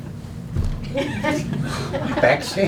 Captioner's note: laughing